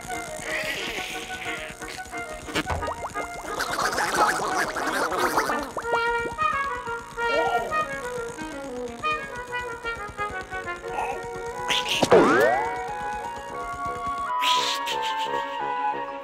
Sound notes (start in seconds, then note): 0.1 nervous squeaking; 2.4 warbling; 3.7 gibberish squeaking; 11.6 snickering squeaks; 12.0 twang!; 14.4 laughing